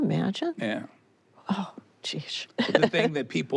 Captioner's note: she chuckles